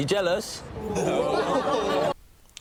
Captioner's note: laughter and “ooh”s